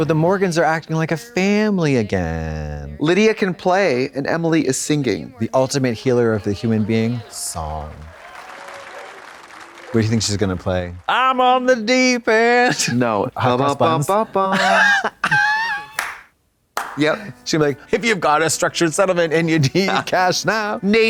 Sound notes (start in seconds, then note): 6.4 audience clapping; 13.5 hums "McDonald's Jingle"